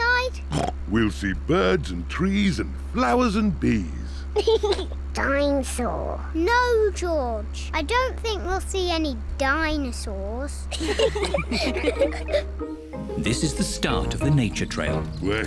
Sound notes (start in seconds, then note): 0.2 snorts; 4.3 laughs; 10.7 all giggle